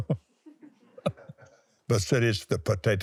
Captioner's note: laughs